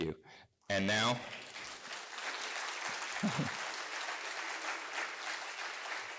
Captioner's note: applause